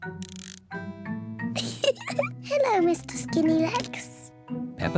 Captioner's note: laughs